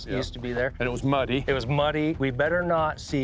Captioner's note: laughs